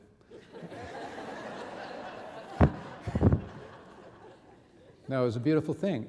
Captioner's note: audience laughing